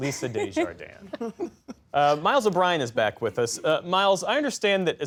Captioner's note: laughter